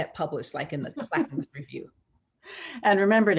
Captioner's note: laughs